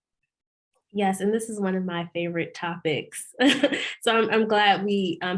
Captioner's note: laughs